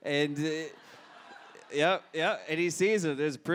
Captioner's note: audience laughs